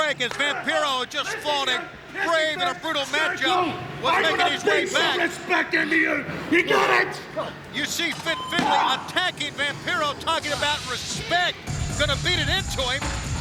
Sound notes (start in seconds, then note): 4.0 yelling; 7.0 Vampiro grunting